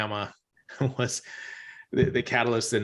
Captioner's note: chuckles